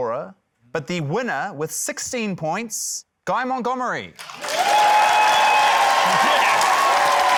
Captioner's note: cheering, applause